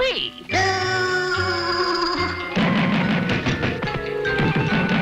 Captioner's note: Woody booing